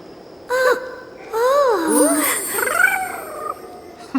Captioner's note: moans